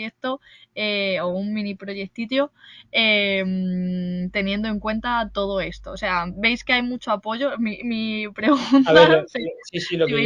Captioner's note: laughs